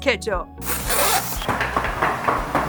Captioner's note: bag zipping; trolley bag rolling